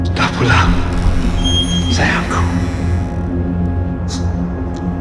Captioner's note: speaking in foreign language